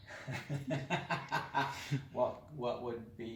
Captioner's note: laughing